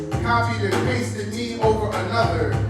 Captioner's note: Arabic